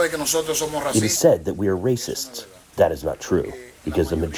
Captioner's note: through translator